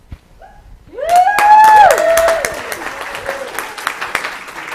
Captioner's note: applause